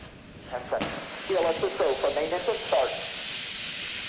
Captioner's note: rocket engines firing